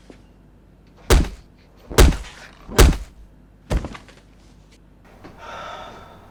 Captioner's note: fist whacking against face; Manny sighing